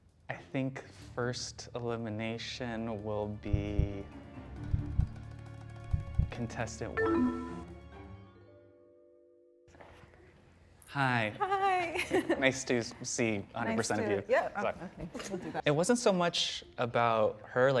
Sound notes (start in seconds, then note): 3.4 heartbeat